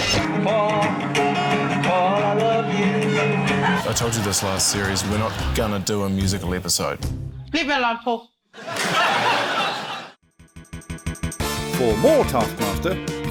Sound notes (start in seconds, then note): 0.0 out of tune guitar plays; 8.6 laughter